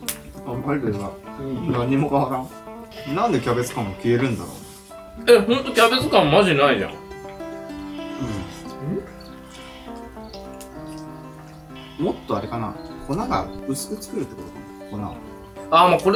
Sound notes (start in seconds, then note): 1.9 laughs